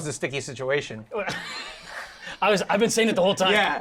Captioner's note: laughing